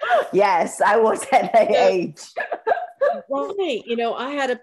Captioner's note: laughs